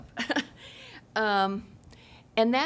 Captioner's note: chuckling